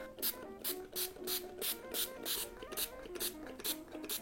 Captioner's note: bottle spraying